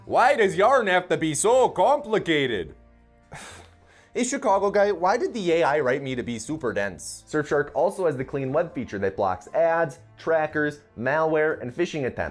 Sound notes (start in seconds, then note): 3.3 sighs